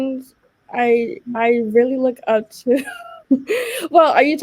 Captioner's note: laughing